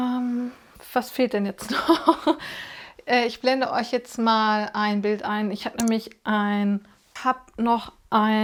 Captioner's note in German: gelächter